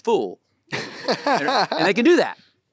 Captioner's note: Timothée and audience laughing